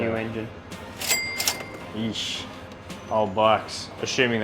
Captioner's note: cash register dings